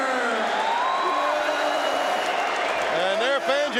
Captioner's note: audience cheering